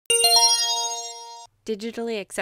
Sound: chime

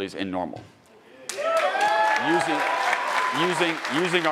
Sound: attendees cheering and applauding

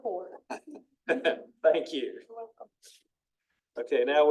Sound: laughs

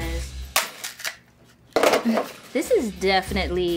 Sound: chicharron cracking

